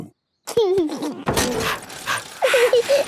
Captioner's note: mummy pig panting; chuckles; daddy pig panting; peppa chuckles